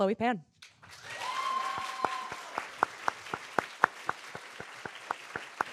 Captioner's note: audience cheering and applauding